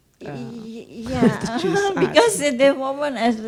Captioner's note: laughs